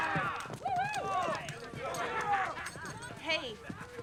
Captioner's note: fans shouting